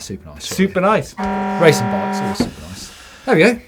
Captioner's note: klaxon sound